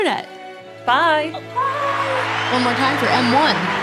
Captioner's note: crowd cheering